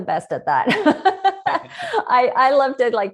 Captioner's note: laughs